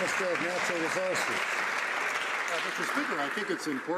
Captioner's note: some Applause